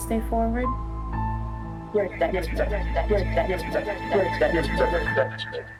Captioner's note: echoing